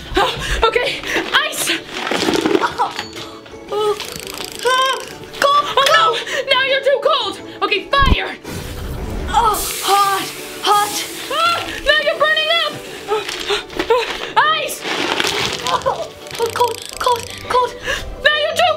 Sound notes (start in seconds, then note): 3.7 shivers; 8.5 sizzles; 14.6 shivers